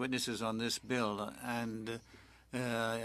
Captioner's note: speaking French